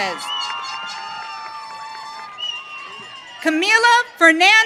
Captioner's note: audience cheering